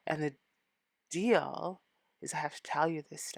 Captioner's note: none